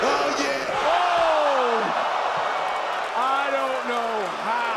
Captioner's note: audience cheering